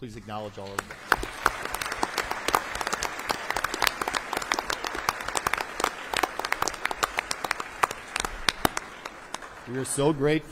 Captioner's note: applause